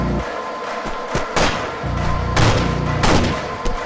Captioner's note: gunshots